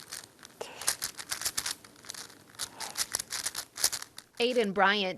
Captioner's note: Rubik's Cube rattling